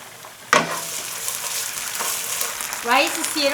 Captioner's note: pan sizzling